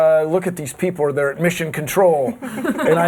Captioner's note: laughter